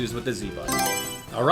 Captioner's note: Mario Selection Sound